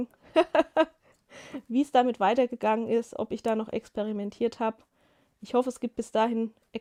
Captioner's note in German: gelächter